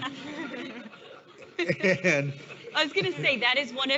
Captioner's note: all laughing